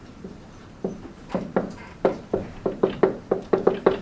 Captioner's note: marker thudding